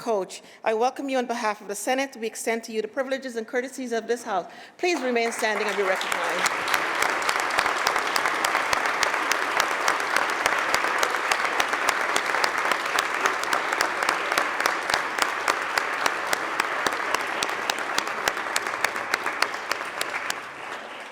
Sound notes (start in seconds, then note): 6.3 applause